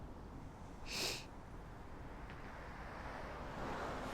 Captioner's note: sniffles